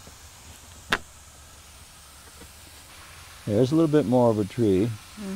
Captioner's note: water spraying